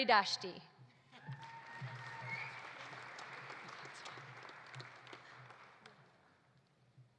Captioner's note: audience applauding; audience cheering